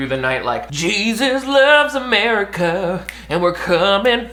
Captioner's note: snaps